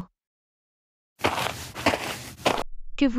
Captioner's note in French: FX - Footsteps - On Multiple Dirt - Walk